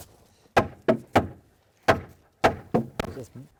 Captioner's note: hammer thudding